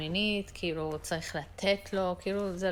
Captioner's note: Hebrew